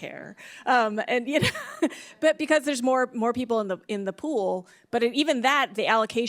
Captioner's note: chuckles